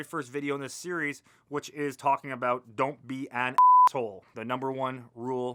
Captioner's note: beep